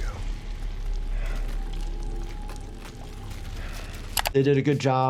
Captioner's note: heavy breathing